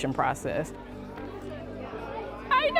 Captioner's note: children chattering